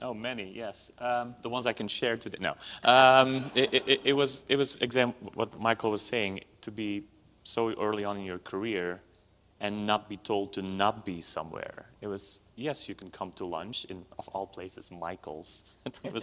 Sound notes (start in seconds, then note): 3.2 audience laughs